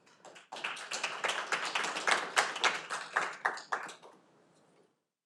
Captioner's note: audience applauding